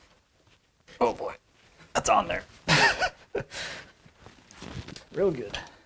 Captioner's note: strained laughter